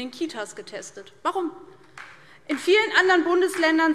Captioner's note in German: Beifall DIE LINKE